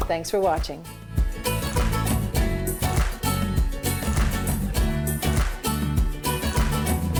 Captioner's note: upbeat swing music; audience rhythmically claps